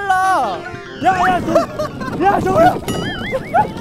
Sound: vroooom

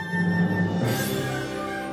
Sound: chimes

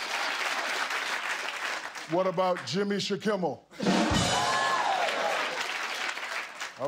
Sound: applause

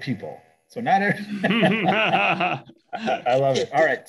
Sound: laughs

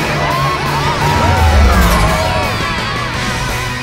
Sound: cheering

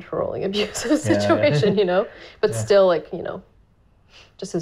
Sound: laughing

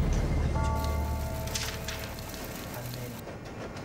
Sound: text clacking; people chattering

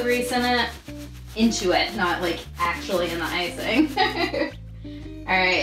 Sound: laughs

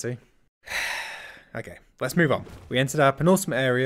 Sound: sigh

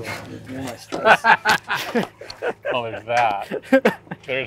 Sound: laughs

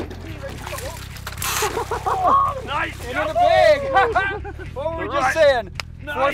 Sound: cheering

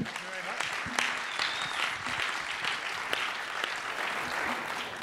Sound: applause

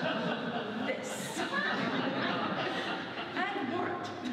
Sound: audience laughs

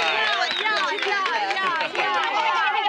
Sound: women whooping

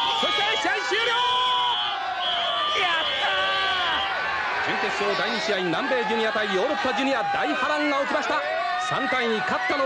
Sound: applause

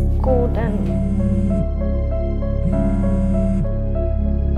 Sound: phone vibrates

